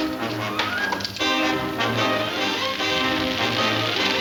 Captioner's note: fire crackling